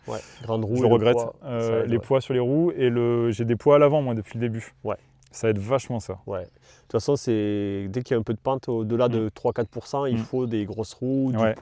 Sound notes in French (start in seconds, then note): 9.9 rires